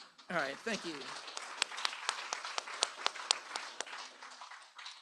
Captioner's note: applause